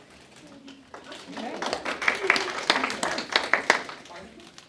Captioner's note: audience clapping